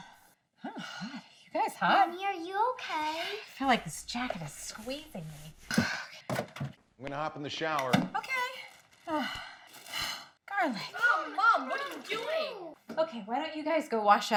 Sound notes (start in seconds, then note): 8.9 exhales heavily